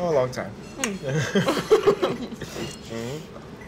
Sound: laughter

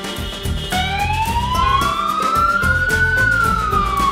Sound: siren wails

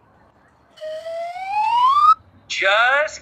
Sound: whistle

